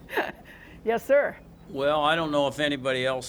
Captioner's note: laughter